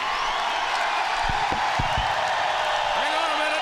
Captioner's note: crowd cheers